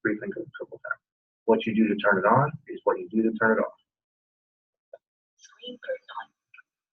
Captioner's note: indecipherable system noise